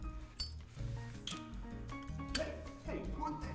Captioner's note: lighter clicks